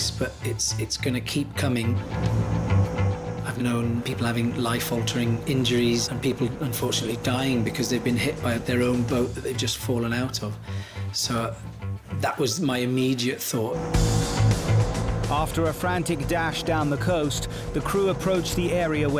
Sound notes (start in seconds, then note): 2.2 boat engine revving; 13.7 dramatic music